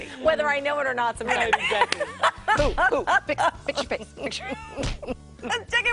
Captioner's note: laughter